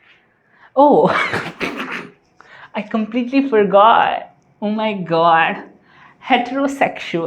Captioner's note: laughter